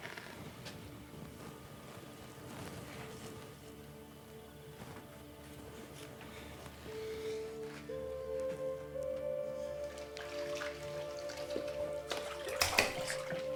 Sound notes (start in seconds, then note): 0.2 soft dramatic music; 10.2 water sloshing